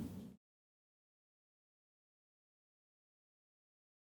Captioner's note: no audio